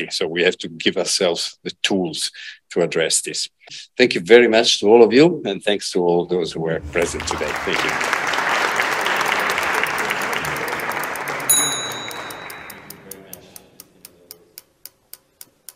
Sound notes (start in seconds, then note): 6.8 applause